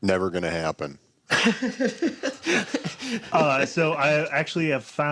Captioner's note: laughs